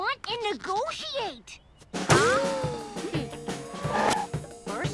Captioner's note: zoom music effect